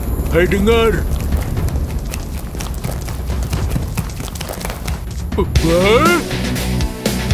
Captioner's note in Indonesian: Langkah kaki